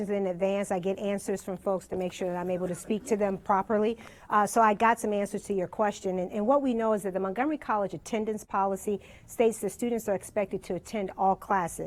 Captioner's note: laughter